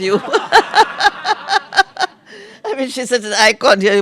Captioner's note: laughter